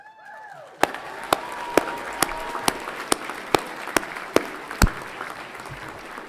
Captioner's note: everyone clapping and cheering